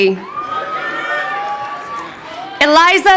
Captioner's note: crowd cheering